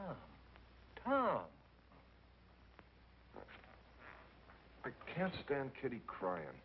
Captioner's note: none